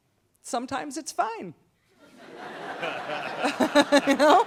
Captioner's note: laughs